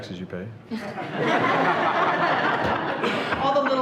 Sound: everyone laughing

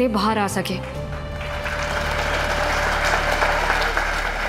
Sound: applause

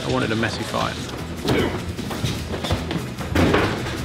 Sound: GRUNTlNG

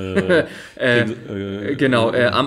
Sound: laughs

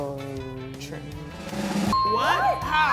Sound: drum roll; ding

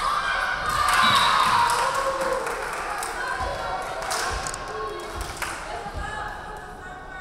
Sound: referee whistling; crowd clapping

